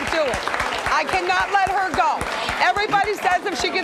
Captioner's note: clapping